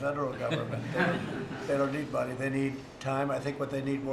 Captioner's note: laughter